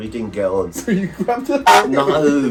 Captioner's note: honk